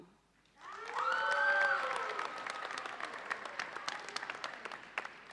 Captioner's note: audience cheers and applauds